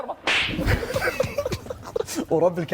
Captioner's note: laughing